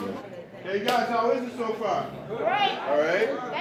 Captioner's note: crowd talking